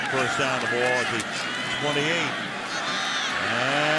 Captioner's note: pa announcement